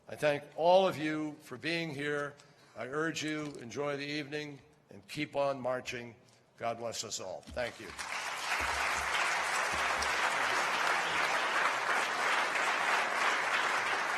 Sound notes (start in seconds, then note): 10.8 applause